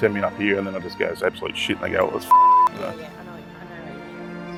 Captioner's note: beep